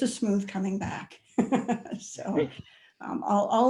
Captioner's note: chuckles